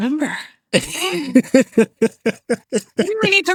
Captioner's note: laughing